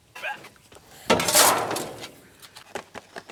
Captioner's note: metal crash sound